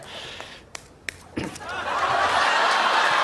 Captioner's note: clears throat; laughter